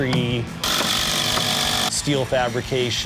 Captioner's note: drill whirring